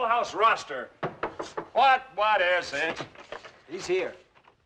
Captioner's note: Knocking